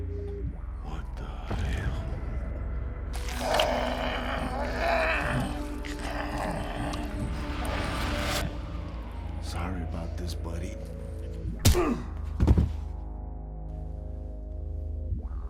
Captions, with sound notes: What the hell? (person grunting) - Sorry about this, buddy. (fist punching)